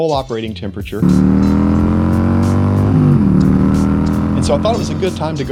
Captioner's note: motorcycle engine whirling